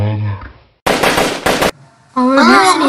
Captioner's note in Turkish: silah sesi